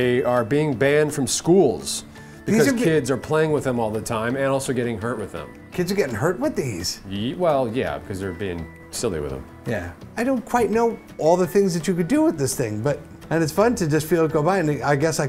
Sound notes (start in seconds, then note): none